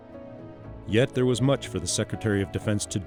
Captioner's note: voiceover